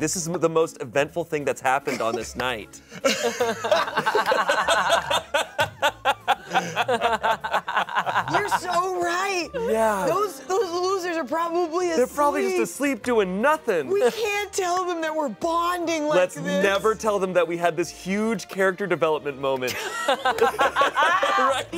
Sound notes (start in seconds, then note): 3.0 everyone laughs; 19.8 everyone laughs